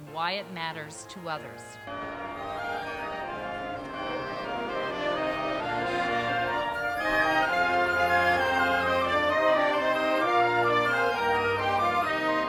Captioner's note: bell ringing, music